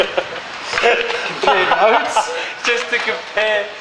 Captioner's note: laughter